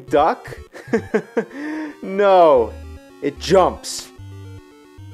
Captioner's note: sarcastic laugh